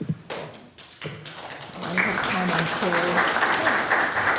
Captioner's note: attendees applauding